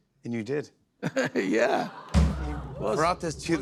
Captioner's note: chuckles